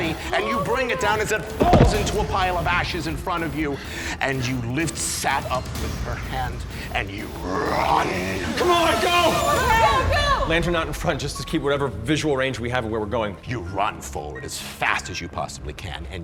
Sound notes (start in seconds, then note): 8.9 shouting